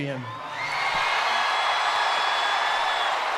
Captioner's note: crowd cheers